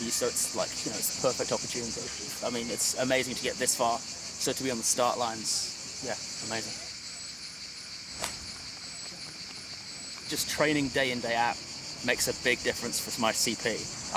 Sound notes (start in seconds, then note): 10.3 claps hands